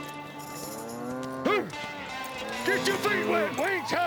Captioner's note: cow mooing